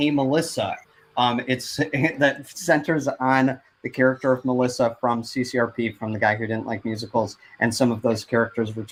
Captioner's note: stutters